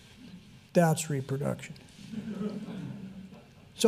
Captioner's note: audience chuckles